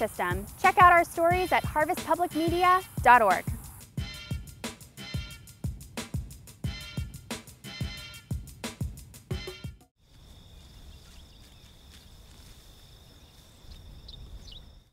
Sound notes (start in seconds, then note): 3.5 upbeat music; 10.1 birds chirping